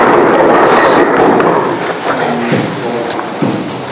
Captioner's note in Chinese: 雷声隆隆